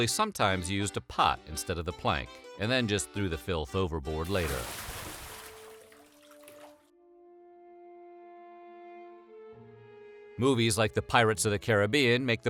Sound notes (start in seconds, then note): 4.2 splash